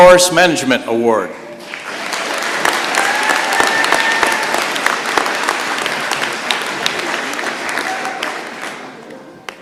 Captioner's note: applause